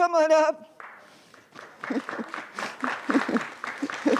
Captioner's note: applause